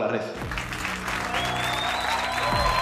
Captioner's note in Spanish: Aplausos